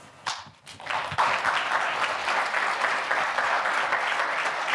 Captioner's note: audience applauding